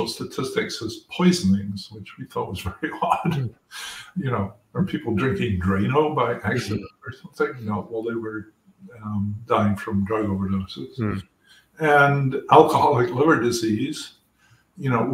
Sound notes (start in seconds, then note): 2.2 laugh